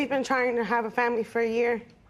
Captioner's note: voice breaking